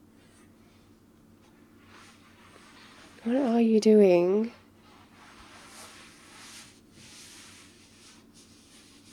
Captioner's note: shuffling